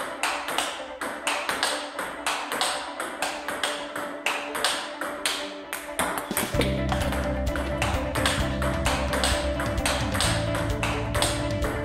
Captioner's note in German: Spielgeräusche